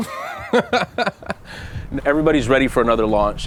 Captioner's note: laughter